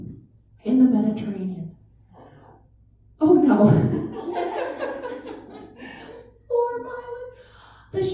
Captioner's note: laughter